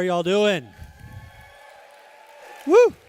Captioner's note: cheers